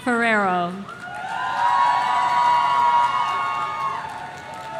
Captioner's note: audience cheering